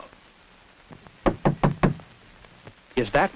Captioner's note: knocking